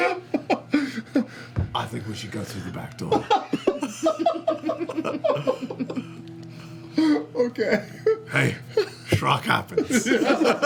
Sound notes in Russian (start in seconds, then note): 3.0 смех; 7.3 смеётся